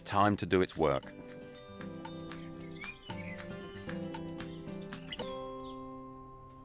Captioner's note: bright music; birds chirping